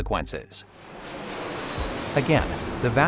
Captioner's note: airplane engine; traffic sounds